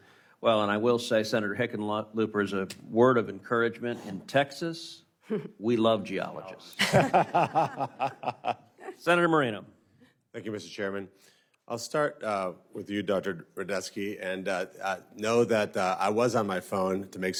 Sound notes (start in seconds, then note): 9.5 laughter